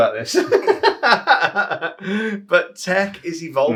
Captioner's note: laughs